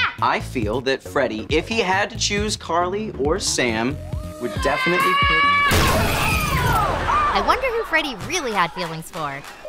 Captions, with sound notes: I feel that Freddie, if he had to choose Carly or Sam, would definitely pick-- [screaming] I wonder who Freddie really had feelings for.